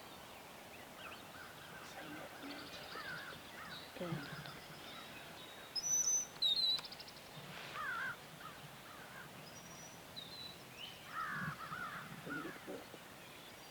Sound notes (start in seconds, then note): 0.7 birds tweeting; 2.2 hunter whispering; 6.0 birds tweeting